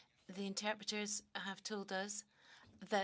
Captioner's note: speaking French